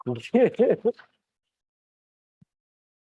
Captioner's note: laughs